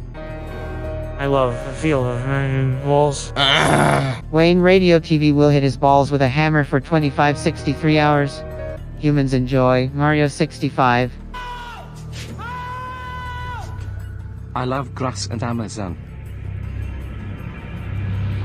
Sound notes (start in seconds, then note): 3.2 UNNGHH.mp3